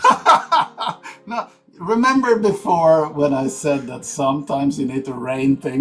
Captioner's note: laughs